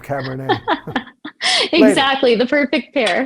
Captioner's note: laughing